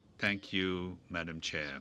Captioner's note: speaking French